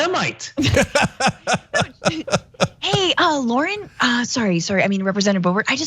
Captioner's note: laugh